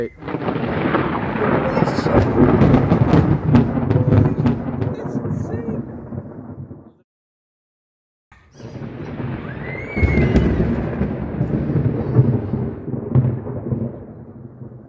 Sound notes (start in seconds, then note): 0.0 super loud thunder; 4.5 thunder fades; 8.4 loud thunder crackles